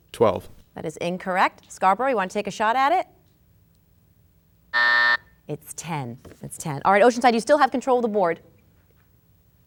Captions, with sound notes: - Twelve. - That is incorrect. Scarborough, you want to take a shot at it? (buzzer sounding) It's ten, it's ten. Oceanside, you still have control of the board.